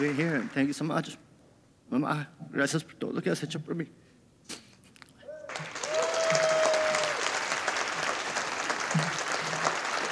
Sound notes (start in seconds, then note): 2.8 foreign language; 5.4 audience applauding